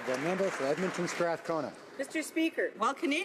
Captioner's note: some Applause